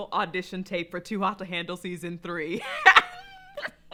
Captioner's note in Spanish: Risas